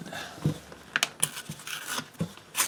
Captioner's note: tearing sounds